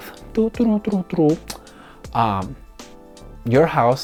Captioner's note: humming